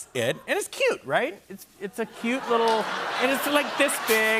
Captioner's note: laughter